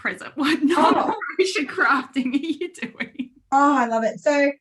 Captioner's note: laughs